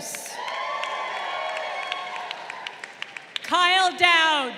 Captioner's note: crowd cheering